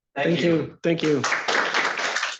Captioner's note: applause